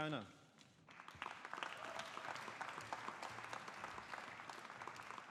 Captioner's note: audience applauding